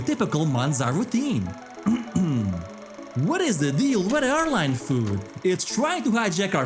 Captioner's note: clears throat